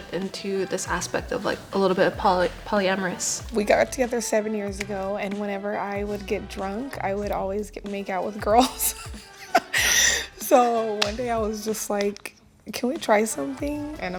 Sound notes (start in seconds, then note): 8.6 chuckles